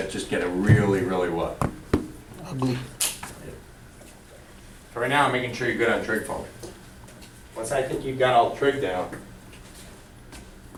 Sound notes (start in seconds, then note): 2.7 voiceover